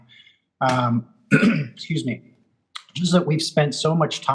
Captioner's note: clears throat